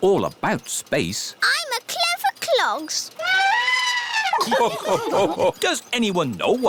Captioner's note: trumpets; all laugh